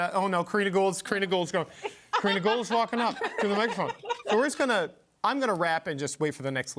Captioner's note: laughter